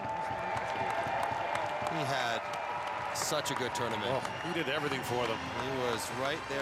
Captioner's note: cheering and Applause